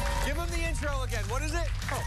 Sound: cheers and applause

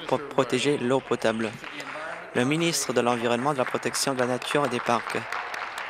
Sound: applause

